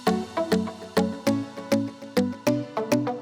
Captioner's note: none